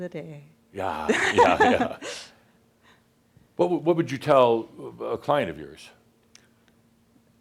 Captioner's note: they chuckle